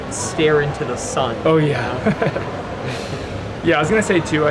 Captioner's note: laughs